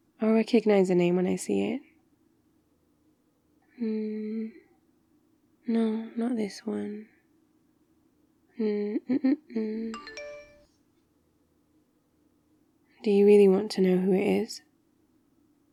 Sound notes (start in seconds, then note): 9.9 happy humming; 9.9 text alert